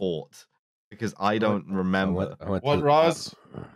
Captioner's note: grumble-mumbling